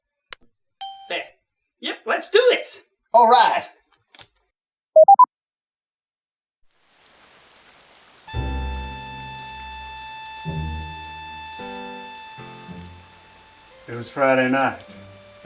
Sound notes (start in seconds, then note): 0.9 computer ding; 5.0 camera beep; 6.8 heavy rain sounds; 8.2 smooth Jazz plays